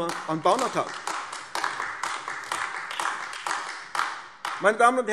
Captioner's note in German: Beifall AfD